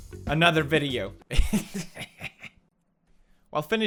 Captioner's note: laughing